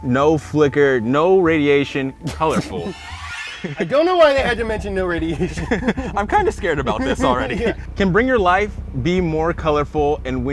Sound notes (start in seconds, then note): 2.2 playful sound; 2.3 scoffs